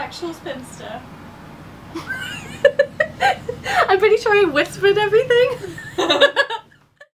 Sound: laughing; both laugh

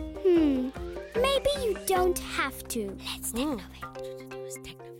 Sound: whispering; whispers

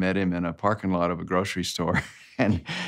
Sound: laughs

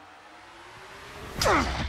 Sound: grunting

